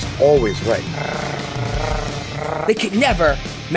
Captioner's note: growling